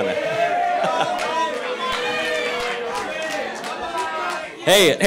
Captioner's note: protestors chanting